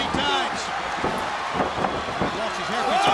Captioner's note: crowd cheering